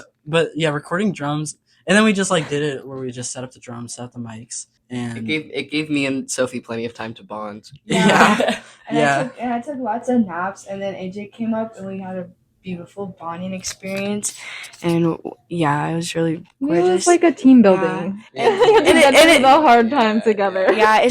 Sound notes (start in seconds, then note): 7.9 laughing